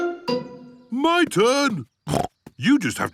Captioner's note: snorts